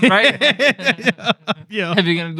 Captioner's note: laughter